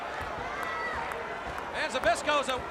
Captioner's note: crowd chatter